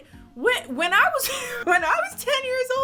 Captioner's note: laughs